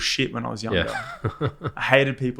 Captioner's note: laughs